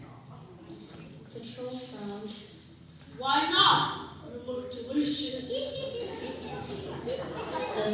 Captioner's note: laughter